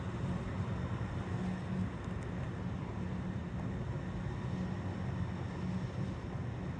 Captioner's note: plane engine roaring